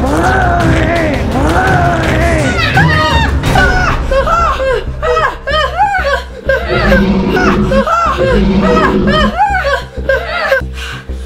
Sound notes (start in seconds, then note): 0.1 growling; 2.4 screaming; 4.0 panicky breathing; 6.6 growling